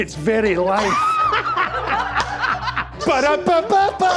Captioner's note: laughter; more laughter